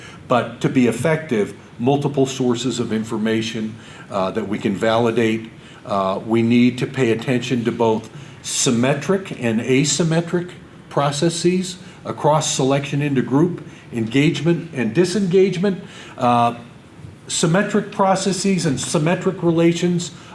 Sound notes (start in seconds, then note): none